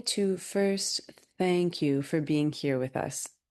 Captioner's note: speaking French